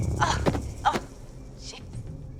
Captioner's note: grunts